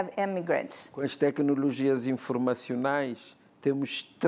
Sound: speaking portuguese

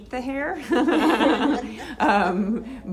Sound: laughing

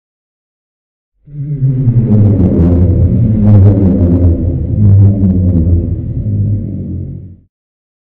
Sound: underwater monster voice

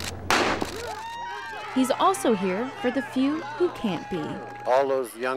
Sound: starting gun fires

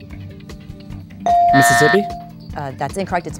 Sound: dinging; buzzing

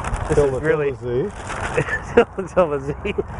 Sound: laughing

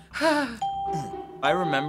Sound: nervous sigh; grunting victoriously

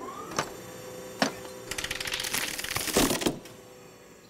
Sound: clacking; thud!

